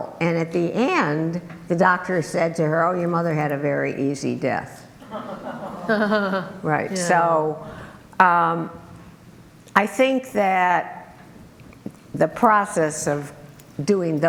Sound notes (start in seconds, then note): 5.0 disdainful laughter